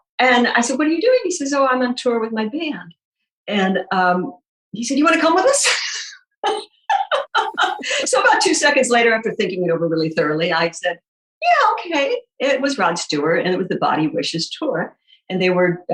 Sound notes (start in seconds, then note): 6.4 laughing